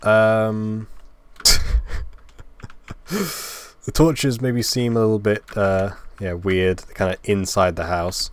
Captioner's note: laugh